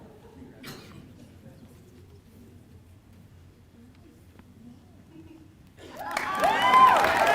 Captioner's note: applause